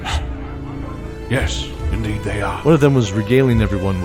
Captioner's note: hushed